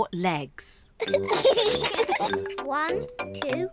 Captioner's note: both giggle